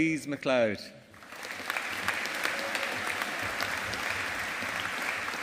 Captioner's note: audience applauding